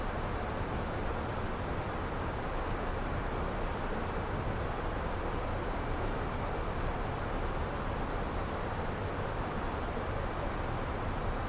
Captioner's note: wind